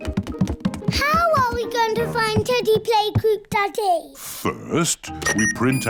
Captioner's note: none